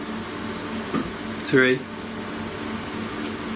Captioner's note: thump